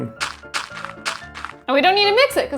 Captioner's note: dirt crunching